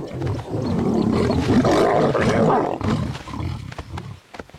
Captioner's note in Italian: leone ruggisce